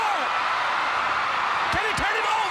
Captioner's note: crowd cheering